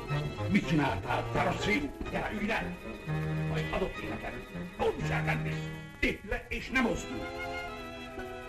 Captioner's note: foreign language